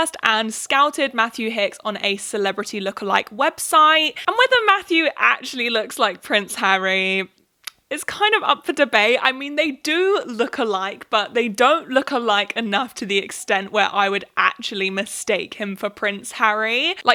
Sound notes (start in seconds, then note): none